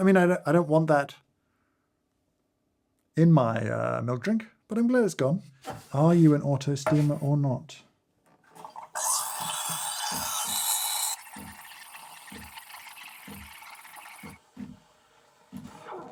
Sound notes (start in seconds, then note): 9.0 steaming; 12.3 milk burbles